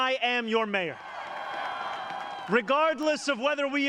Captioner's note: cheers and applause